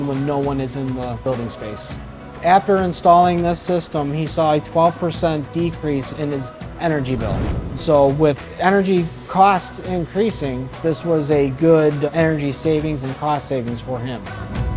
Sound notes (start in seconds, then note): 6.7 note swooshes; 14.5 upbeat music continues